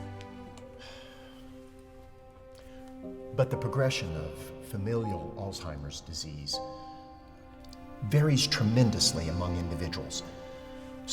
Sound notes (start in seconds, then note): 0.5 sighs